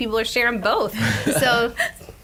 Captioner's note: laughter